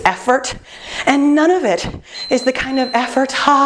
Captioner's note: beeping